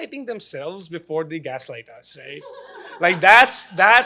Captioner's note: laughing